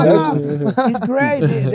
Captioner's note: laughing